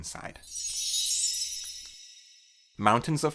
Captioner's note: chime